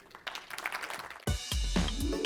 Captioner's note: applause